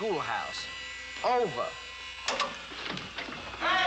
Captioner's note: button Clicks, Whirring Stops